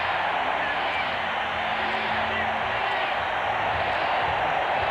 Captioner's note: cheering